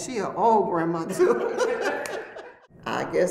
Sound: laughs

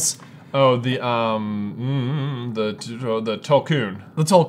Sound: vocalizes

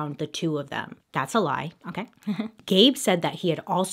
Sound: chuckles

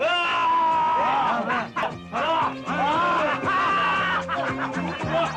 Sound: shouts

